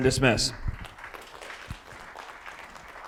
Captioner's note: audience clapping